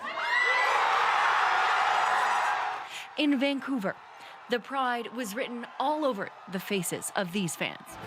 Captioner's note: cheers and Applause